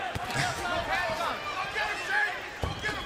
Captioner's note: chuckles